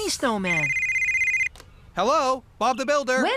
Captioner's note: cell Phone Rings